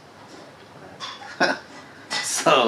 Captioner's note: laughs